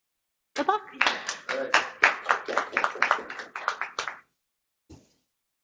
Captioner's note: people applauding